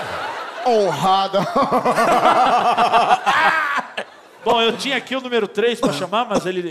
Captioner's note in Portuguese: risada maligna; tosse